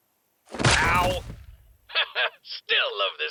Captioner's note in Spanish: tortazo